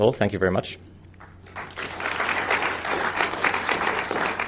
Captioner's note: applause